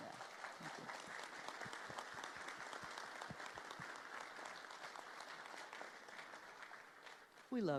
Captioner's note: applause